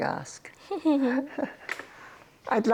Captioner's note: chuckles